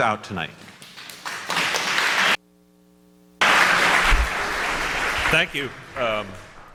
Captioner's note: applause